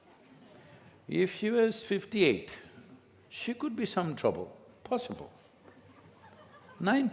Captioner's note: few laugh